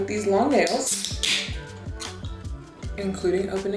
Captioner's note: soda can clicks